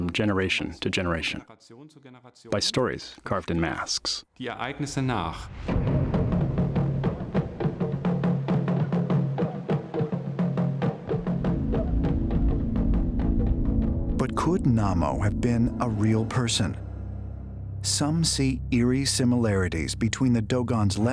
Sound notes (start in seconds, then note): 4.2 non-english speech; 6.2 ritual music